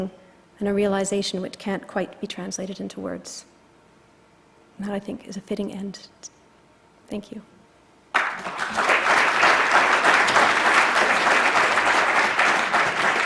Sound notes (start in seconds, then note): 8.1 applause